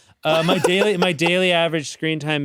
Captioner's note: chuckles; laughs